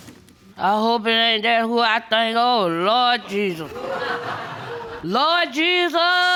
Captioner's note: audience laughs